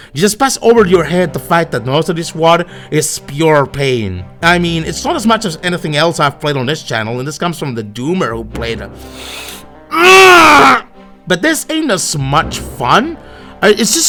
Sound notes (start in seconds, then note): 9.9 grunt